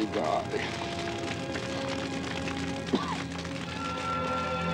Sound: coughing

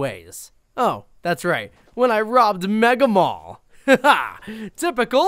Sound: laughs

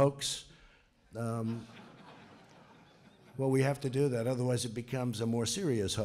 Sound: laughter

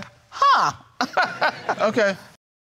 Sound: chuckles

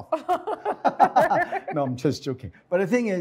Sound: laughter

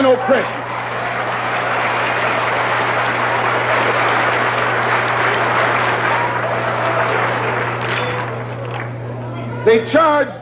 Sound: applause

